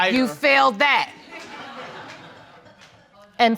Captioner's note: audience laughing